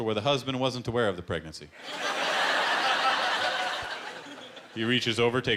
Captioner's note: laughter